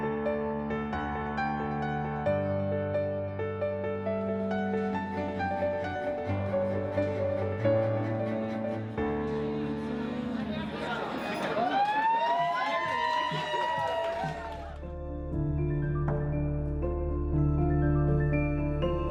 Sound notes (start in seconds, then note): 9.3 guests chattering; 11.2 guests cheering; 14.7 contemplative piano music